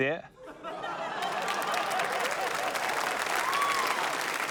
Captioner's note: laughter, applause